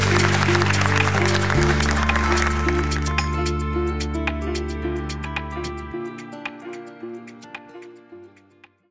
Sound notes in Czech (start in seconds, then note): 1.8 Potlesk